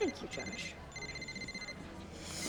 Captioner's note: phone rings